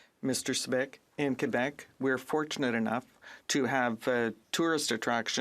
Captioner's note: speaking French